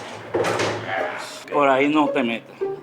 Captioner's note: sound of complaint